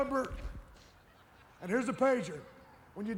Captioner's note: audience laughs